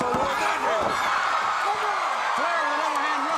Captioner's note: crowd cheering